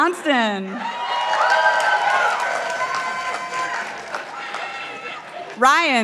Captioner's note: participants applauding